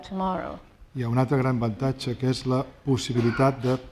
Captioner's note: speaking spanish